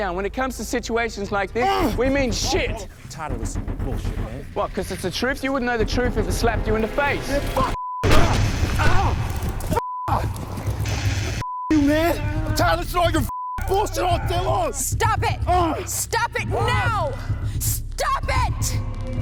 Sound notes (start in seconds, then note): 1.6 Carter groans; 8.3 Robert grunts and moans; 8.8 Robert screams; 13.7 both men grunt and moan